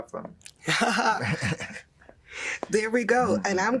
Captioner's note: laughing